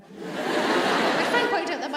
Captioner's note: audience laughs